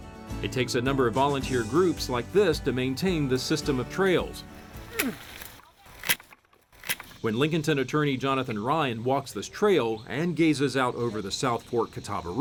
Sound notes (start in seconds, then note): 4.7 grunts with effort; 5.7 branches snapping